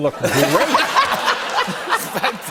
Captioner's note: laughter